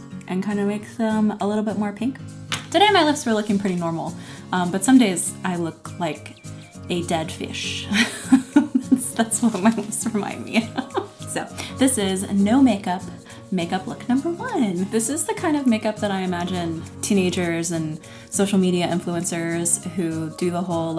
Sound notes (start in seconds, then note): 9.5 laughing